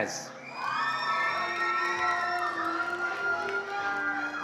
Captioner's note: attendees applauding